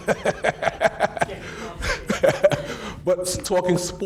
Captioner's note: laughing